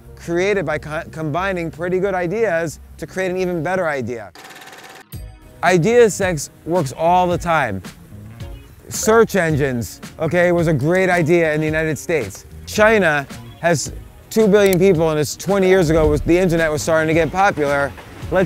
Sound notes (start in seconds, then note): 4.4 machines clanking